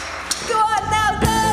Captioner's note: cheers and applause